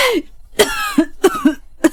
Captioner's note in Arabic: سعال، سعال